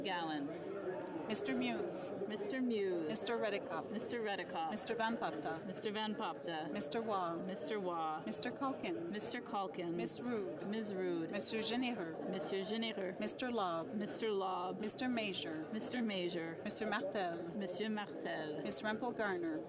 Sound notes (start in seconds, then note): 6.4 calling of recorded vote